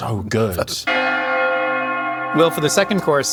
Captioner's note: bells chiming